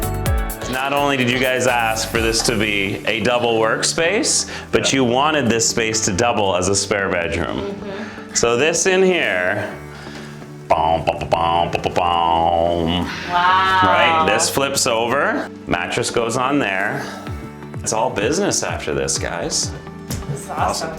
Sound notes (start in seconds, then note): 10.7 hums fanfare